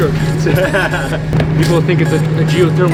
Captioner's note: laughing